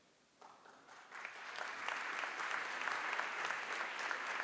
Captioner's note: applause